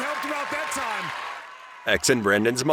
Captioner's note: cheering